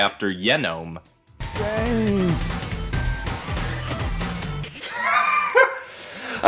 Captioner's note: throws keys & squeal